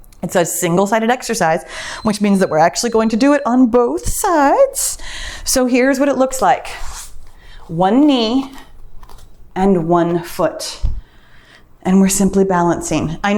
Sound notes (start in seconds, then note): 1.3 timer beeps